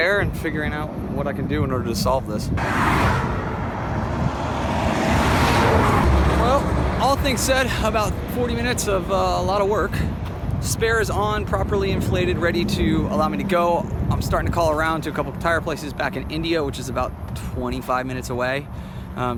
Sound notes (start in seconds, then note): 2.7 traffic whizzing in background